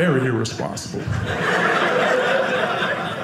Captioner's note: audience laughing